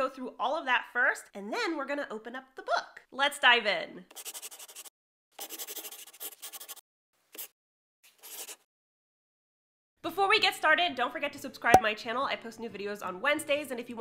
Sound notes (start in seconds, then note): 5.4 the sound of a pen scratching. LOGO